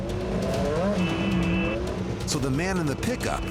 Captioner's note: honking